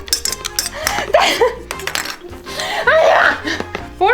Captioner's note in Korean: 웃음